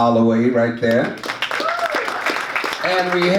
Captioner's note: audience claps